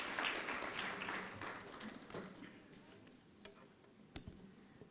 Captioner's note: applause